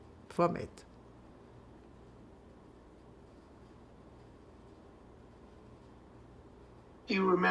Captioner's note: pauses 6 seconds